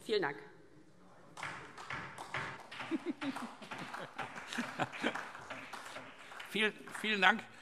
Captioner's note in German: Beifall DIE LINKE, vereinzelt SPD und BÜNDNIS 90/DIE GRÜNEN